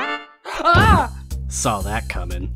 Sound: Album yelps

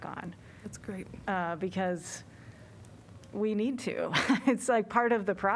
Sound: laughter

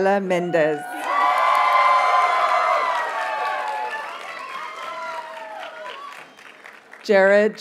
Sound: audience cheers and applauds

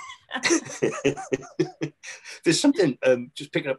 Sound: laugh

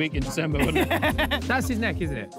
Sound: laughs

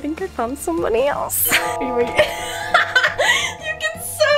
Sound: laughter

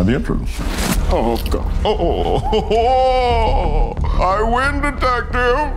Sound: moans

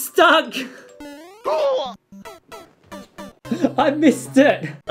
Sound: fun/sad noises

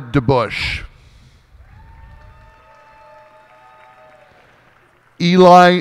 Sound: cheers and applause

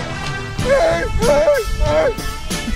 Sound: ape sounds

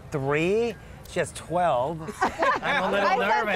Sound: laughing

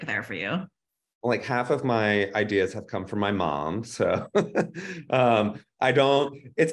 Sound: laughs

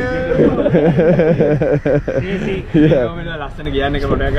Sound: laughter

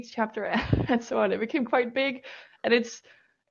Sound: laughs

